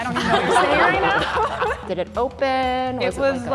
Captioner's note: all laughing